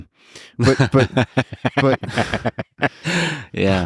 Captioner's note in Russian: Лекс смеётся